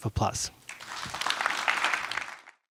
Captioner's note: applause